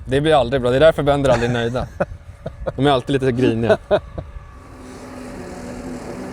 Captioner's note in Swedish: skratt